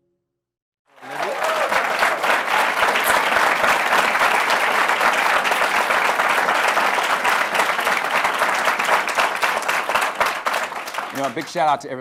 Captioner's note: applause